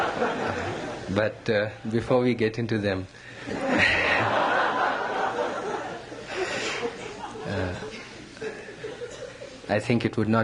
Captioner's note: laughter, laughs; laughter